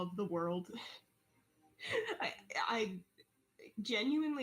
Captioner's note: sounds of joy